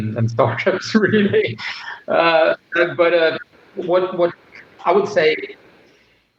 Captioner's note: laughter